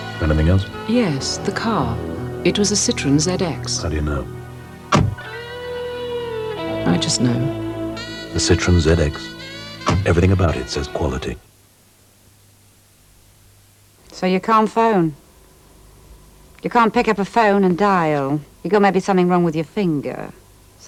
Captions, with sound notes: — "Anything else?" — "Yes, the car. It was a Citroën ZX." — "How do you know?" [DOOR SHUT] "I just know." So you can't phone. You can't pick up a phone and dial. You got maybe something wrong with your finger.